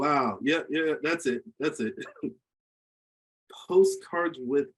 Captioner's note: laughs